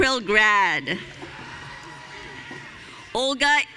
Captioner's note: audience cheering